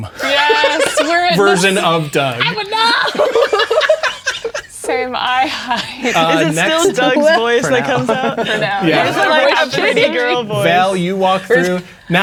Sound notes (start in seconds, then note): 0.1 laughing; 3.3 players laughing; 8.8 all talking and laughing